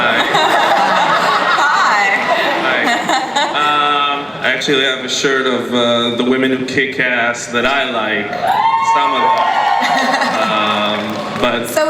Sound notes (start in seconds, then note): 0.0 laughter; 0.4 voiceover; 2.8 voiceover; 7.9 audience cheering